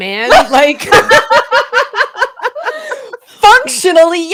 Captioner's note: laughing